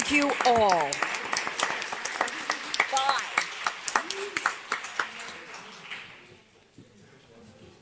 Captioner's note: applause